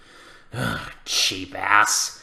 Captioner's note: sighs